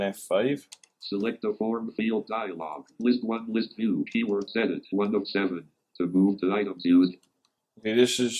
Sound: computerised voice

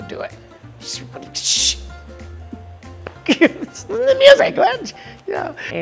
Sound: laugh

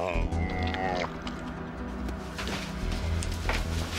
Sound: laughs; dog growling

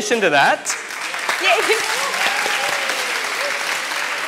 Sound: audience applause

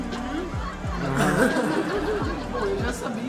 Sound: laughs

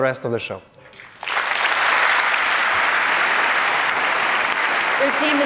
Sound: applause

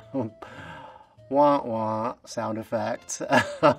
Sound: chuckle

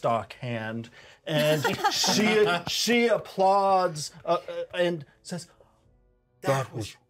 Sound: laughs

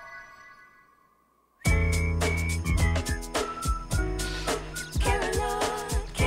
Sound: whistling

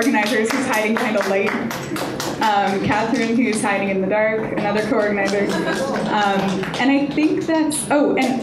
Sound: audience applause; applause

